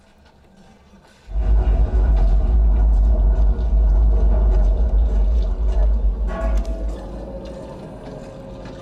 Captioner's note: eerie rumbling and wet squelches